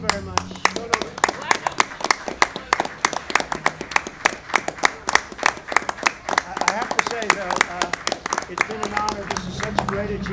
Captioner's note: applause